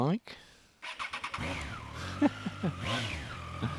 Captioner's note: revs engine; chuckles